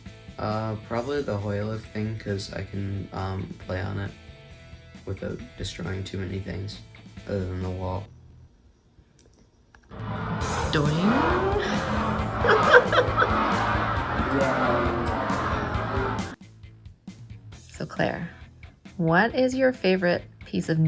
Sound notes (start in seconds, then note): 15.4 laugh